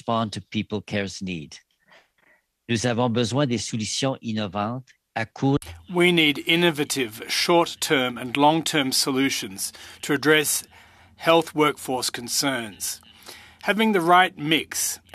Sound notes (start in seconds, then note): 5.8 speaking in French